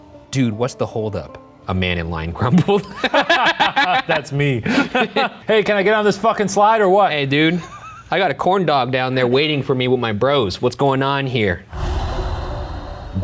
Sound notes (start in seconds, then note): 4.6 laughing; 12.0 atmospheric music